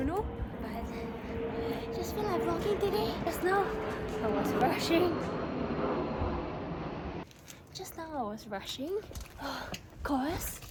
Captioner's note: dun mind the airplane flying past me